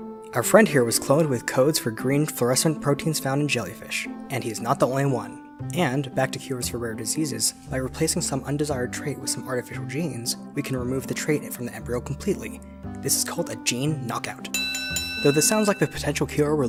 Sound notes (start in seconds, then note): 14.5 bell ringing